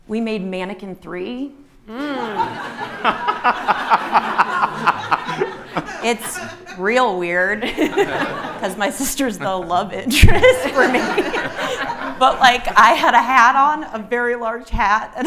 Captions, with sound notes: We made Mannequin 3. (audience laughing) It's real weird. 'Cause my sister's the love interest for me. But, like, I had a hat on, a very large hat,